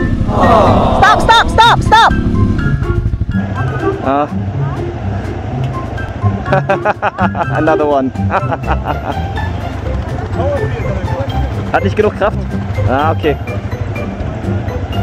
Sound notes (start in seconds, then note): 6.4 laugh; 10.3 speaking German